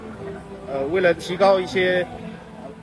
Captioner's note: traffic